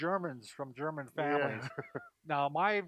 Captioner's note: laughing